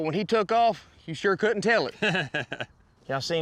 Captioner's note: laughs